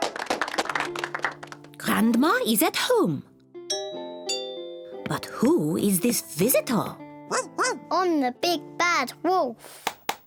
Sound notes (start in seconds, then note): 3.7 doorbell rings; 7.3 barks